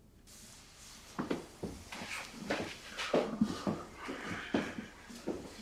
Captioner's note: footsteps rustling possibly